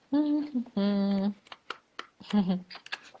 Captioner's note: humming